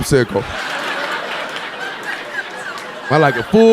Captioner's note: audience laughing